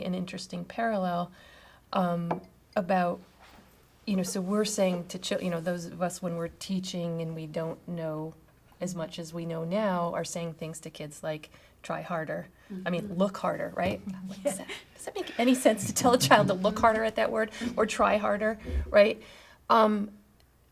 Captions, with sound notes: an interesting parallel about, you know, those of us when we're teaching and we don't know as much as we know now are saying thing to kids like, "Try harder." I mean, "Look harder.", right? (all laughing) Does that make any sense to tell a child (laughs) to look harder at that word or try harder, right?